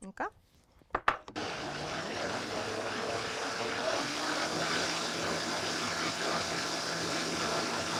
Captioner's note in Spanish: licuadora bate